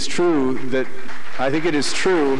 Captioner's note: applause